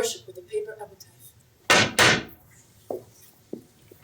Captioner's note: sticks pound rhythmically